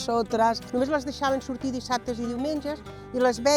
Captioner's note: in catalan